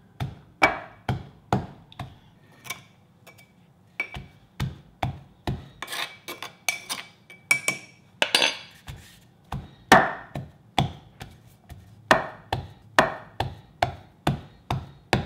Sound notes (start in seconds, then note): 0.1 pestle thudding; 2.6 spoon scratching; 4.0 pestle thudding; 5.8 spoon scratching; 7.3 spoon clanking; 9.4 pestle thudding